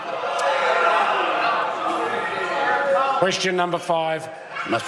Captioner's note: members cheer